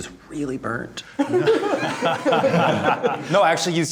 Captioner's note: group laughing